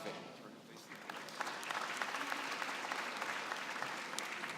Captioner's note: applause